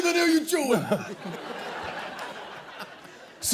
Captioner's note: laughter